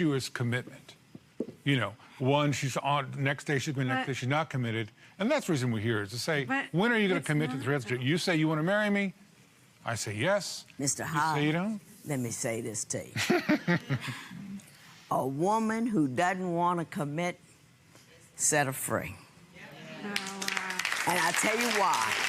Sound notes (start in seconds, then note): 13.2 laughs; 20.0 audience applauds